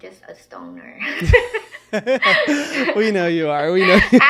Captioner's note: person laughing